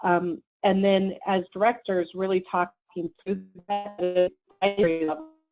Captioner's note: static